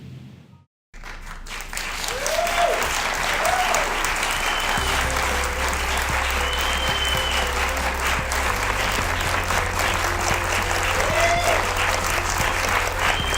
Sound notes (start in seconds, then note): 1.0 audience cheers and applauds